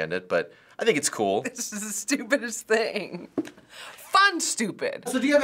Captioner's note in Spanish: risitas